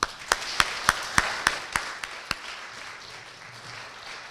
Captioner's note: applause